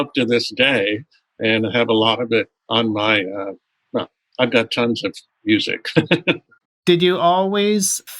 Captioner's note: laughter